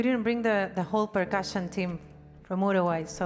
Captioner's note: speaks in foreign language